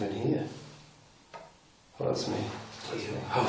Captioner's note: tapping